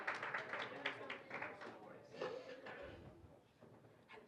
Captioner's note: indistinct chatter